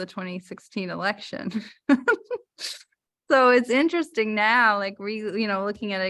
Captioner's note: laughter